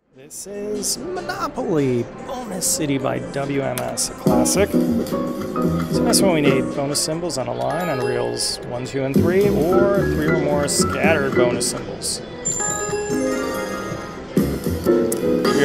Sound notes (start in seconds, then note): 12.4 bell dings